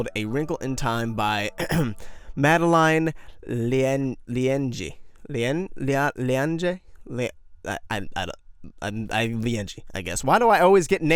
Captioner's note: ahem